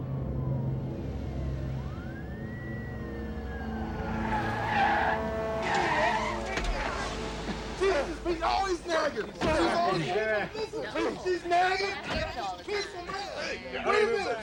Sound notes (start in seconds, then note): 0.0 sirens wail; 1.7 tires screech